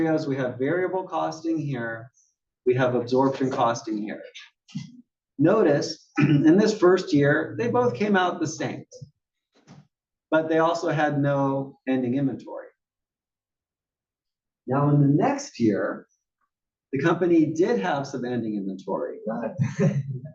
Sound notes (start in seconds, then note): 6.1 cough